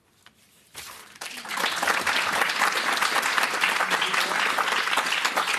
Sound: applause

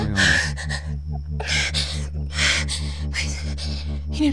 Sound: breathing deeply

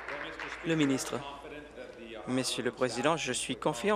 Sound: applause

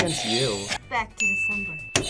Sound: bell rings; buzzer rings

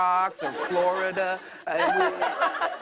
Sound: laughter

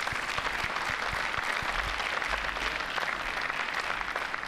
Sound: applause

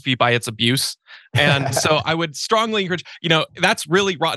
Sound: laugh

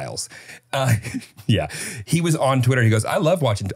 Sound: laughing

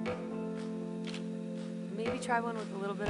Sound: shutter clicks

